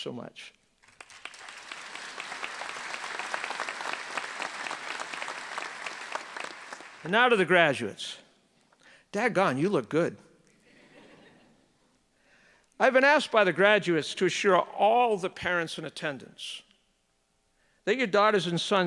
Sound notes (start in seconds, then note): 4.1 applause